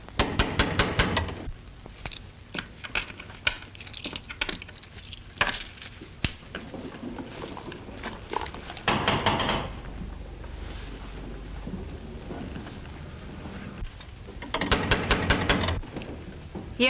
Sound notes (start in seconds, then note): 0.1 knocking at door; 8.9 knocking at door; 14.5 knocking at door